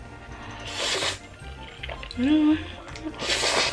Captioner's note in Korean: 후루룩